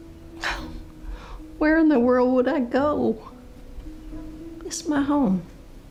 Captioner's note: scoffs